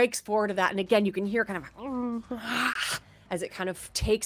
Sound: moans

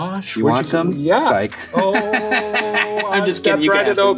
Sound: laughs

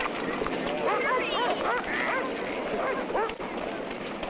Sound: dog barking

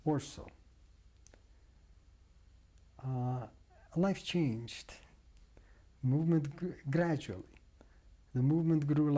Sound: pauses for 3 seconds

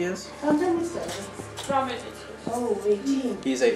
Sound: speaking Georgian

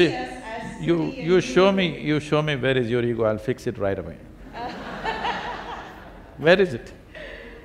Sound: laughter

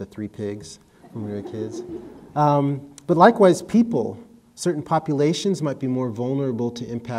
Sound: audience laughter

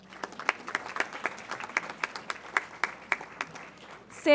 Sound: audience applauds

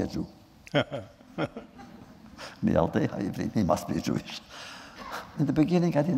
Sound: laughter

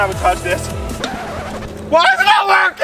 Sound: record scratches

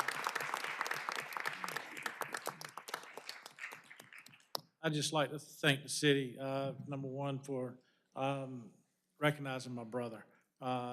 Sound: applause

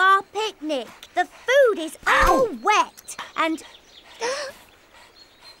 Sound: gasps

